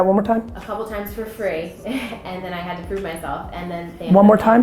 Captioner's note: laughs